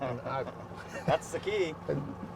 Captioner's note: chuckling